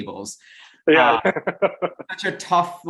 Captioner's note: laughs